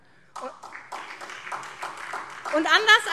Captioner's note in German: Beifall SPD